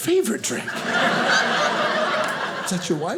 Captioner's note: audience laughing